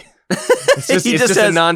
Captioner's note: laughter